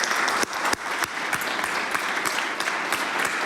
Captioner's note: applause